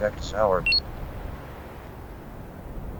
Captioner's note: beep